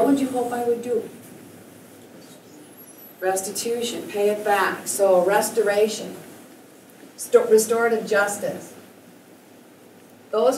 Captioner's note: student whispers